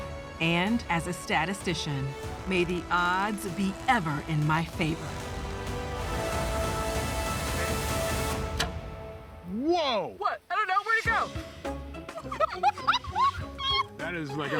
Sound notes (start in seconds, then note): 8.4 arrow misses; 12.0 laughs